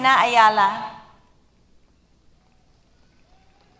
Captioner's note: applause